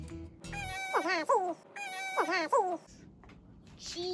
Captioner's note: mouse squeaks